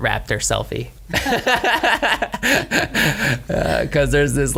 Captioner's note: laughter